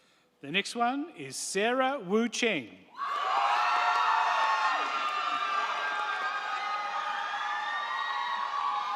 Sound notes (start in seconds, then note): 2.9 crowd cheering; 3.2 crowd clapping